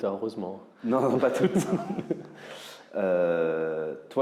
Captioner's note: laughs